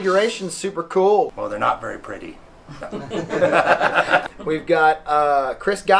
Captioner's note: laughter